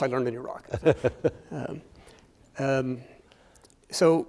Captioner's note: chuckling